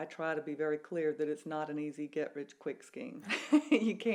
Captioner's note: laughs